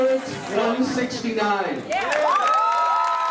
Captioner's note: cheers and applause